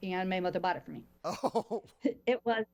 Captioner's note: chuckles